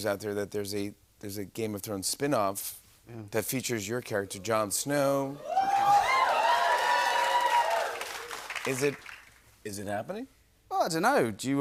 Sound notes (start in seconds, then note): 5.4 cheers and applause